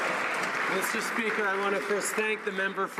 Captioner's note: some Applause